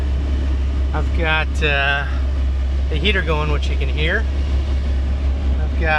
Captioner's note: blower noise